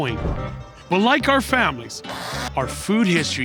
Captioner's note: machine whirring